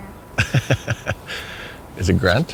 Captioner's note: laughing